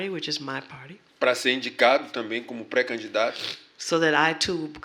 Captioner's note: speaking portuguese